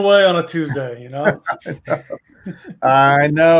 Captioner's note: laughter